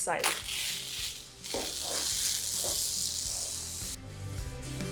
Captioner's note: duct tape crackling; dreamy music